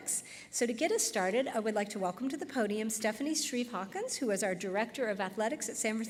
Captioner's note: none